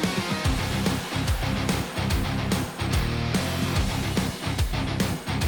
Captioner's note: sound of car engine